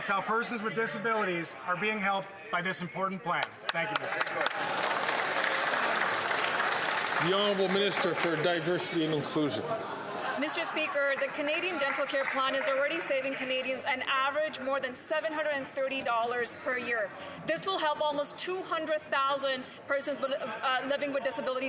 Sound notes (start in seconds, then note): 10.7 some Applause